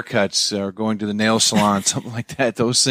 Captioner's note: chuckles